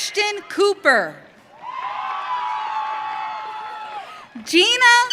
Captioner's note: audience cheering